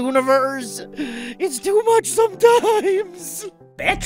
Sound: crying

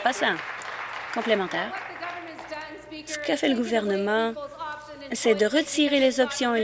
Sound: applause

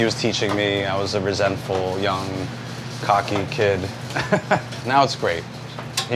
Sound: laughs

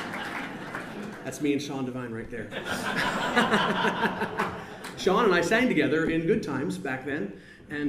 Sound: laughs

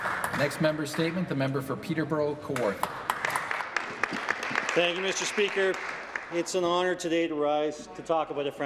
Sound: some Applause

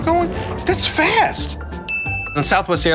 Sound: ding

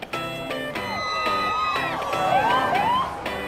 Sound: crowd cheering; upbeat pop music; siren wailing

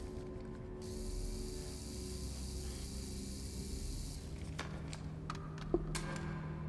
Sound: screwdriver whirring

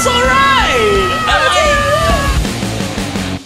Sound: Squidward scream

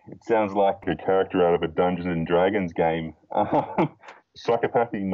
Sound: laughs

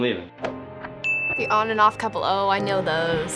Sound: ding

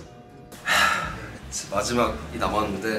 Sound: today’s 500th sigh

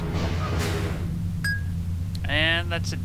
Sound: ding

